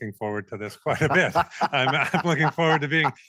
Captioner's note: laughing